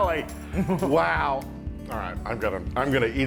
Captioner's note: laugh